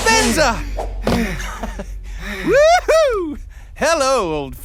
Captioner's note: laughs